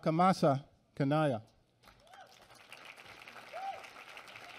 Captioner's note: applause